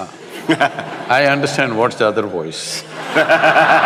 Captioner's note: laughter